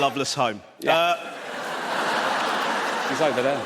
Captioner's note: audience laughs